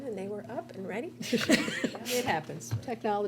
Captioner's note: members laugh